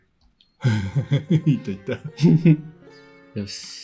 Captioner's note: laughs